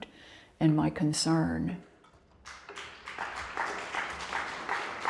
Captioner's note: audience clapping